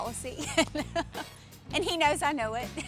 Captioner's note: laughs